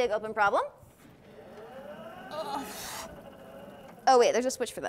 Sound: board grinds; groans

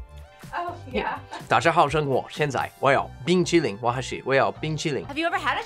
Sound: laughs; speaks in foreign language

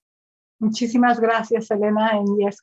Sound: speaking in foreign language

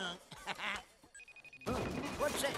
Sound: laughs; telephone rings

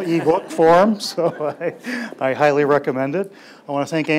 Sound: laughs

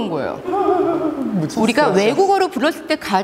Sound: almost crying

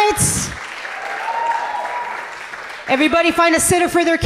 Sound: audience cheering gently

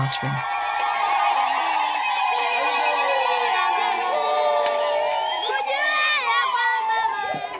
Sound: applause

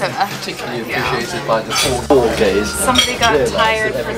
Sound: dishes clanging

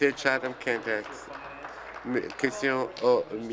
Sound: applause

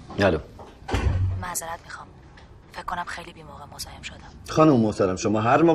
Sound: door closing

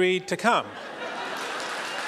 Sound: laughter; applause

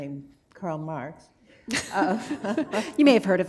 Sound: laughter

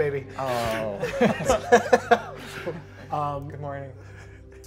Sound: all laughing

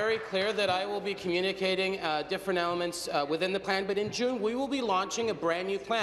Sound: applause

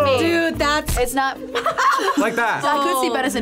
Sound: group laughs

